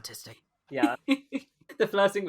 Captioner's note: laughs